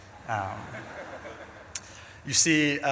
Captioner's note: audience laughs